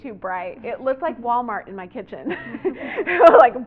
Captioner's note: laughter